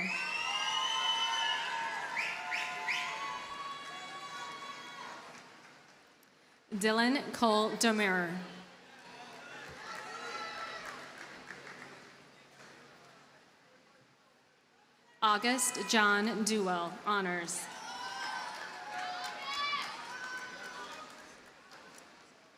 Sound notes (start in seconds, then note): 0.0 audience cheers and applauds; 9.0 audience cheers and applauds; 17.7 audience cheers and applauds